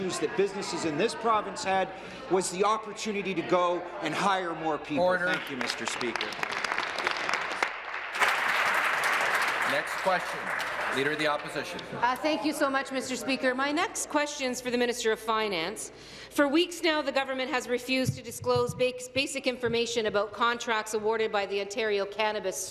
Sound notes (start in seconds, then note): 9.8 applause